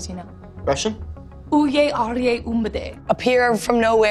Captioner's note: Maya speaking Russian